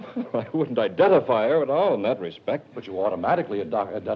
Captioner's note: laughs